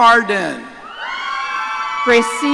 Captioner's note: audience cheering